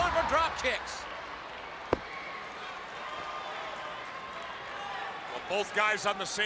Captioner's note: crowd chatter